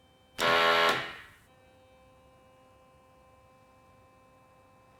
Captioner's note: machine blaring